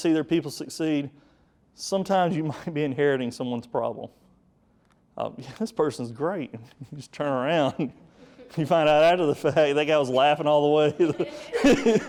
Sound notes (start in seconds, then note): 8.7 audience chuckles; 10.8 hearty laughing